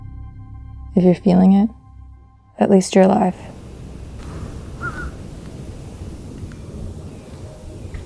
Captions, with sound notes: If you're feeling it, at least you're alive. (bird cawing)